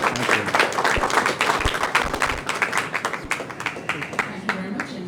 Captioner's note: applause